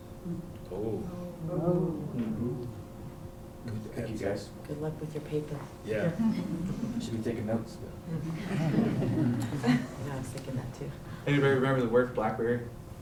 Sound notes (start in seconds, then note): 1.4 non-english; 8.3 chuckles